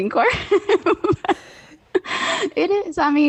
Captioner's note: both laugh